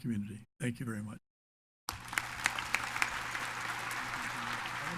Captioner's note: audience applauds